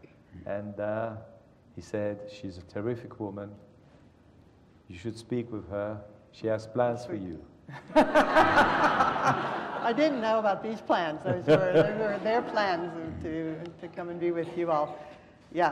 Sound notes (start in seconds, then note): 7.7 laughter